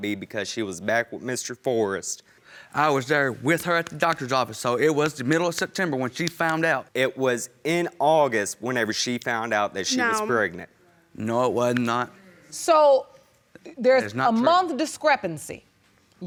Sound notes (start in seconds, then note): none